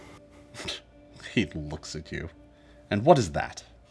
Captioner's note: scoffs